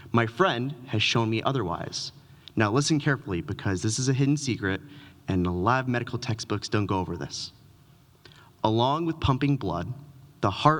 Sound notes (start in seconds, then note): none